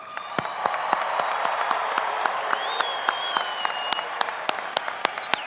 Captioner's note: audience applauding and cheering